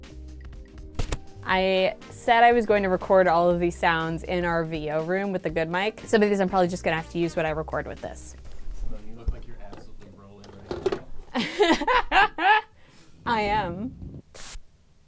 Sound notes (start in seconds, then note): 7.9 pat; 10.3 clanking; 11.3 laughing